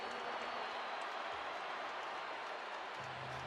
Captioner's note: crowd cheering